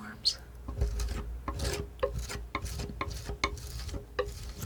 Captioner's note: tapping